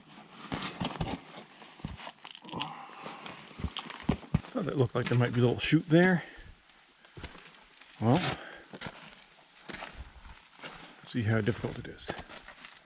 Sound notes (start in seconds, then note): 1.2 footsteps thumping; 2.5 breathes heavily